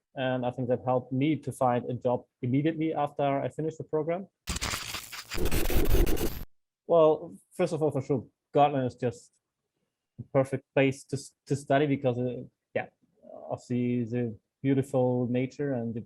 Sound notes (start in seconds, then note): 4.5 crunching